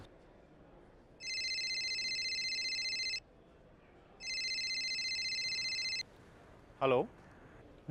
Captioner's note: Dr. Sharan's phone rings